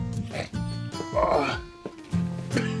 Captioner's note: GROANlNG